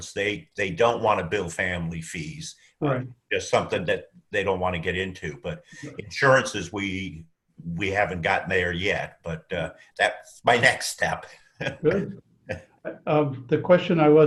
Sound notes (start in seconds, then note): 11.6 laughs